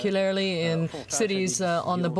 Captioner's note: speaking French